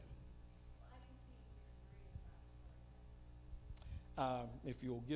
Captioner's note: female audience member speaking